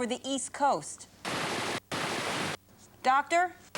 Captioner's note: static interference